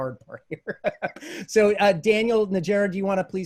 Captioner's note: laughs